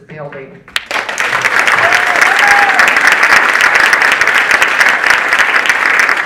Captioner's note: audience applauding and cheering